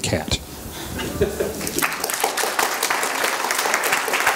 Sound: applause

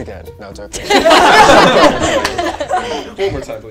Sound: laughing

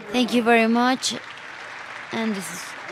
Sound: applause

